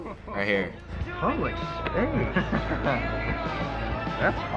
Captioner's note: chuckles